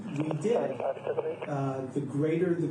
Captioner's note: radio chatter